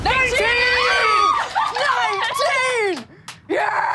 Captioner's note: all screaming